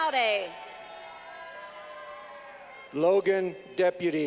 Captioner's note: clapping